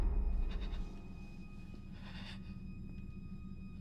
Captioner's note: breath shaking